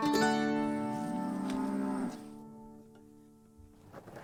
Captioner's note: cows moo